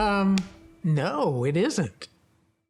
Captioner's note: placard clacks; gentle music